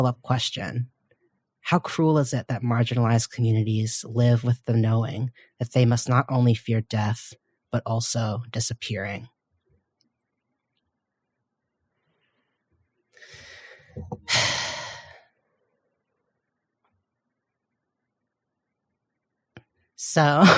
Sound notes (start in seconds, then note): 13.3 pause